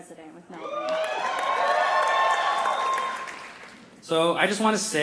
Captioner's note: cheering; applause